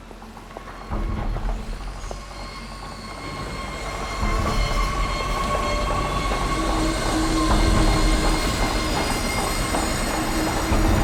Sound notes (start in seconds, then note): 2.0 heavy vehicles rumbling